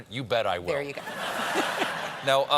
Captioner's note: laughter